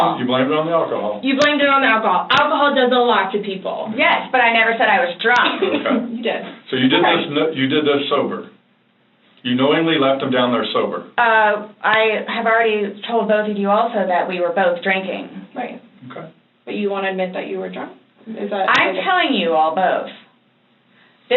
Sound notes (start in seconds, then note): 5.4 chuckles